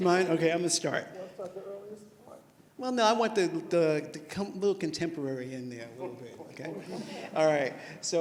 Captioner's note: laughter